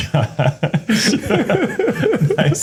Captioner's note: laughter